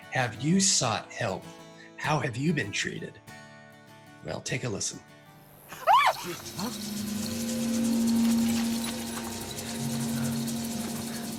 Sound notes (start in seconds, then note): 5.7 screams; 6.3 dramatic music